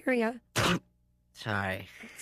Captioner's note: sneezes